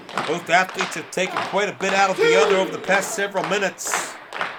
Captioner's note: fans clapping